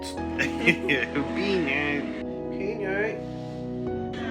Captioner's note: laughter